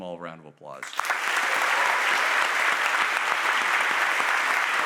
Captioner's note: audience applauding